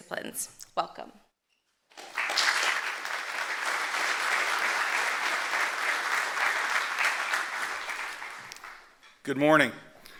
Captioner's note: applause